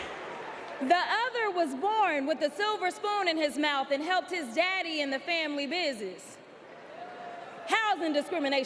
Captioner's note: applause